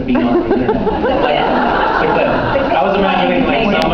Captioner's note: laughs